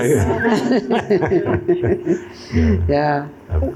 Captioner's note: laughter